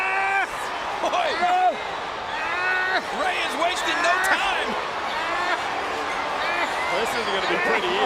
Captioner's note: applause